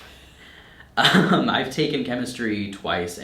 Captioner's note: laughing